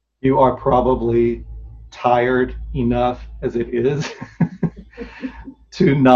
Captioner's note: laughs